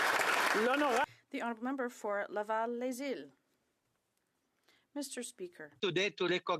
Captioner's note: some Applause